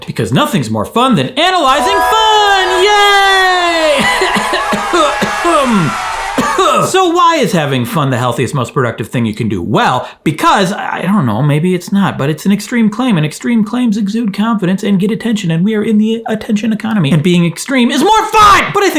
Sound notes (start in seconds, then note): 3.9 host coughing; 3.9 loud cheering